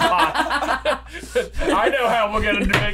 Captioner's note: laughter